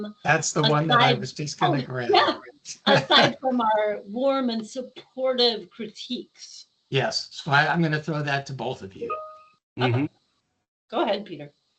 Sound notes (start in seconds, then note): 2.7 laughing